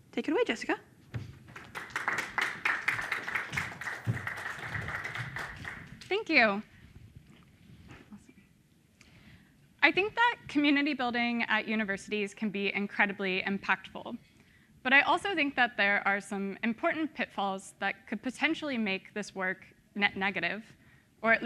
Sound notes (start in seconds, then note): 1.4 crowd applauds